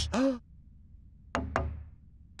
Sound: gasps; hollow thud

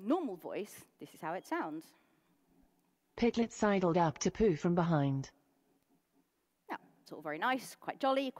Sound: computer voice

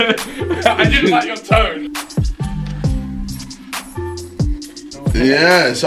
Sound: laughing

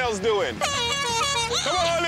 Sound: horn blowing

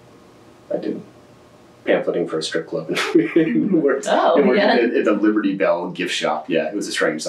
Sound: laughs

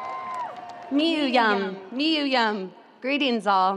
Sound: speaking in foreign language

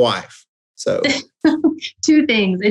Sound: laughing

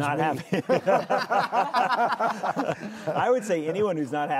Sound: all laughing

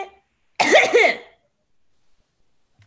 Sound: GABBY clears her throat

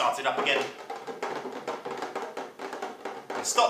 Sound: sound of tapping on a tin box

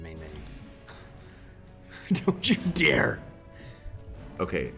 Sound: laugh

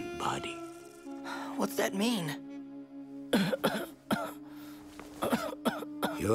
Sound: coughing

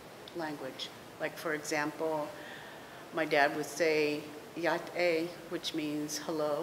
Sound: speaking navajo

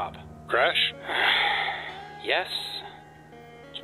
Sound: sigh

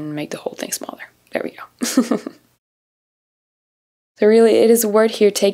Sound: chuckles

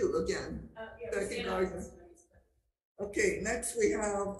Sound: speaker speaking faintly

